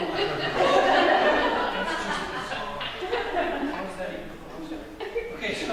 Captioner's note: laughter